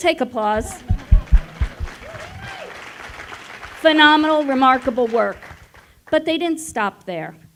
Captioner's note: applause